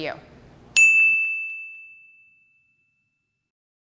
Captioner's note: logo chiming